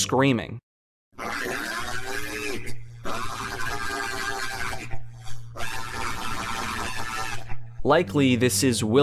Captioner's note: robotic screams